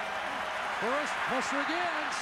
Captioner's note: applause